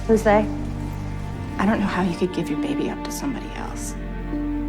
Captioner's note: voiceover